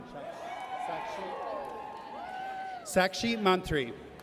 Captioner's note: audience cheers